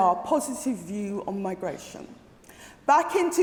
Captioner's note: none